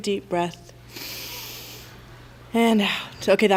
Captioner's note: inhales